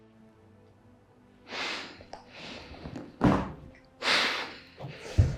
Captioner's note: inhales, Exhales